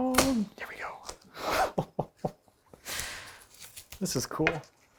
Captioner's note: laughing